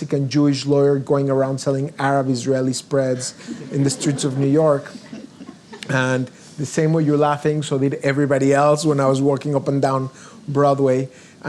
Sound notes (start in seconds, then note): 3.2 audience laughs